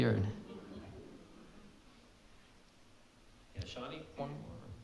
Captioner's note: audience laughing